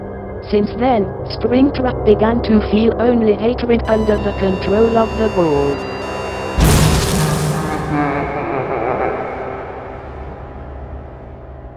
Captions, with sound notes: Since then, Springtrap began to feel only hatred under the control of the ball. (Blast) (Nightmare laughter)